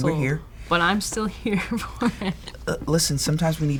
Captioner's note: laughs